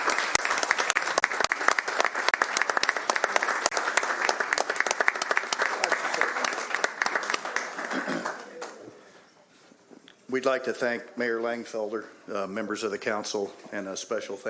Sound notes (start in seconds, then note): 2.0 applause